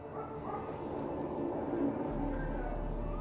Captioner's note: dog barks